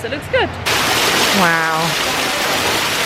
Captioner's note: water falling